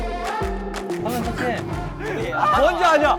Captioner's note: bursts in laughter